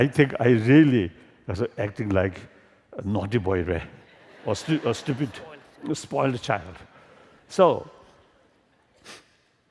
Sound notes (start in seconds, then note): 4.0 laughter